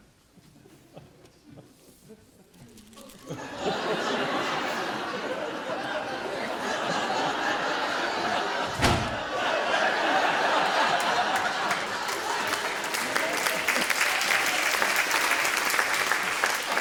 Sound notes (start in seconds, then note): 3.2 audience laughter and applause